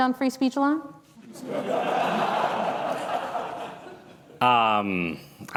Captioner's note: laughter